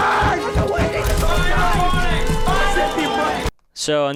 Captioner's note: banging